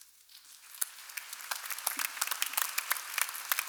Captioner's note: applause